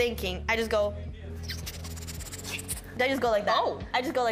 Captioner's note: chittering